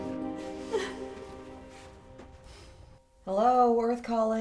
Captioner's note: Anne crying